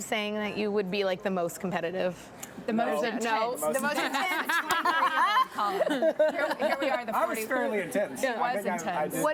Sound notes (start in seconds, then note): 3.8 laughs